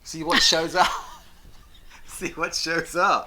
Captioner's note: both laugh